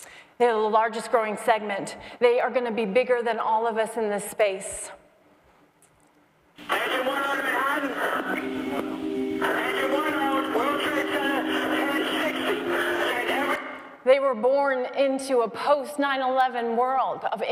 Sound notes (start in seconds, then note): 6.6 radio recording